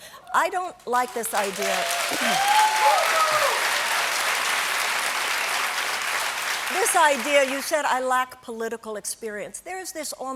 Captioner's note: cheers and applause